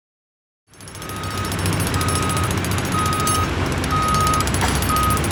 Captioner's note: construction machines roaring